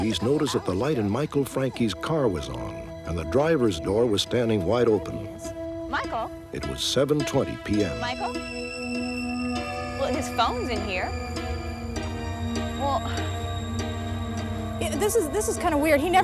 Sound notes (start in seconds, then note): 6.8 on phone